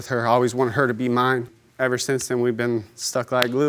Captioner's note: smacks hands